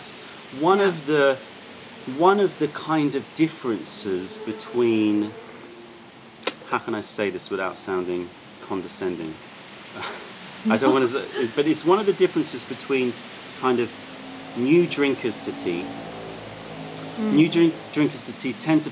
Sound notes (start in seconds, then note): 10.0 laughter